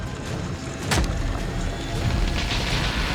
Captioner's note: crack